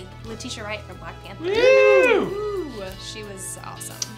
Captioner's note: woo